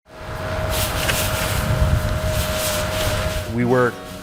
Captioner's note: plow whirring